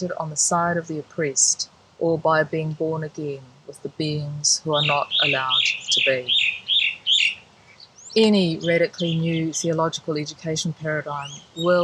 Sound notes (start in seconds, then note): 6.4 birds chirping loudly